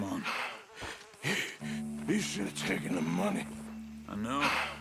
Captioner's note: hardly breathing